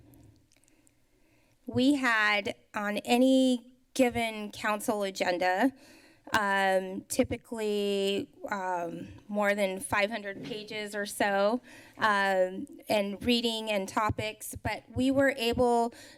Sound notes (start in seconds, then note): none